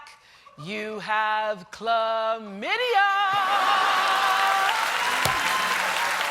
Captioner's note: cheers and applause